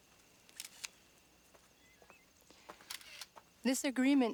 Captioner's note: camera shutter clicks